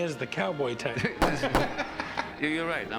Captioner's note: gunshots